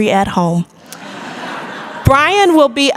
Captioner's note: audience laughter